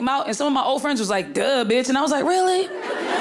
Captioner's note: audience laughing